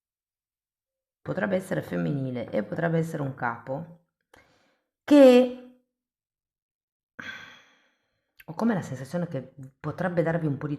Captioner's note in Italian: sospiri